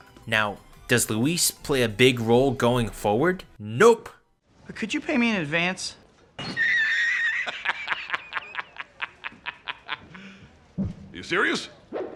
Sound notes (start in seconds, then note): 6.4 wheezing laughter